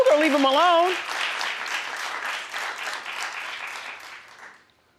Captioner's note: audience applauding